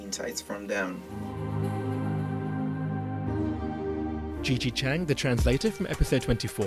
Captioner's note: voiceover